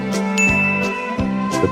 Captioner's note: ding sound effect